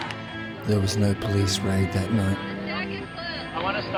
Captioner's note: voiceover